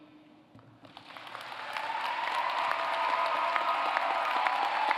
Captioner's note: applause